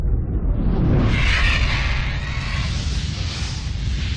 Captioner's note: screeching